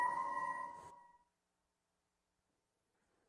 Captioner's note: silence